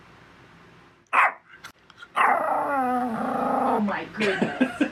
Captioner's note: Daisy barks